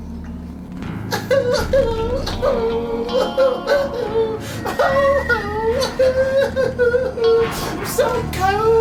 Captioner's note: bizarre crying